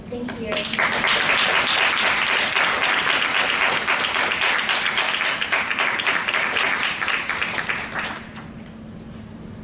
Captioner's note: applause